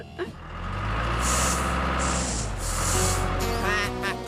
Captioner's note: engine Running; duck Quacking